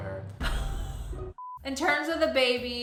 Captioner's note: laughs; beep